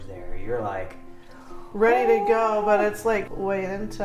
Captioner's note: makes happy noise